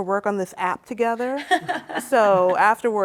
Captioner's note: laughs